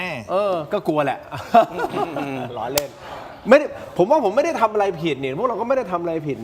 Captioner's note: laughs